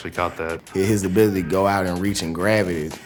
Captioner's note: voiceover